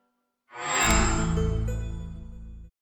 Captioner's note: microsoft sound